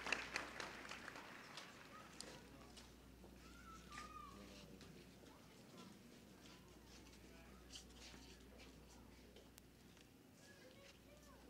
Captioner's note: applause; paper shuffling and other background noise